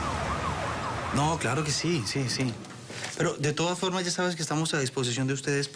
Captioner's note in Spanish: Ruidos del tráfico